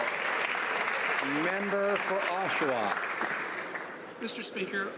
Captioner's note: some Applause